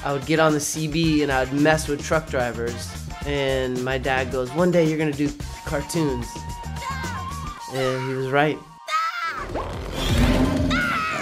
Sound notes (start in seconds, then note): 7.0 yelling; 9.6 growling